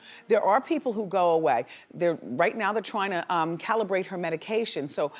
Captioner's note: none